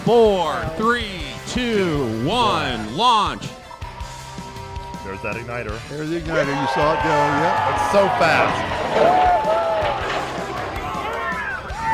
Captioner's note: cheering